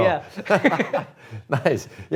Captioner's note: both laughing